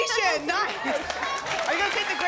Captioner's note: applause